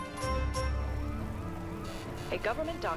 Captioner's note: sirens blaring